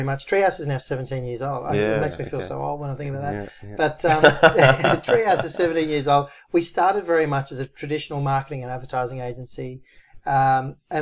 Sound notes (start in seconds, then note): 4.0 both laughing